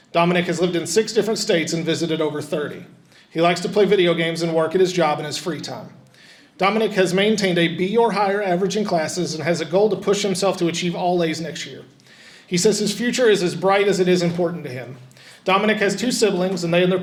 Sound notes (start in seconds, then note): none